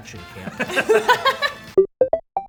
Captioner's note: laughing; upbeat electronic music